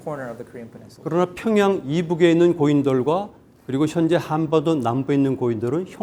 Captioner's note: speaking in Korean